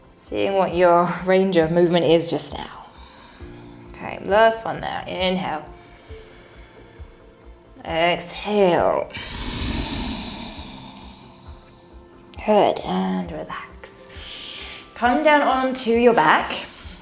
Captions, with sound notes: Seeing what your range of movement is just now. Okay, last one now, inhale. (inhaling) Exhale. (exhaling) Good, and relax. Come down onto your back.